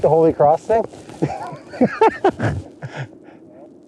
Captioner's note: laughter